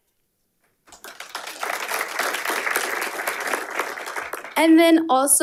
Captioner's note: audience applauding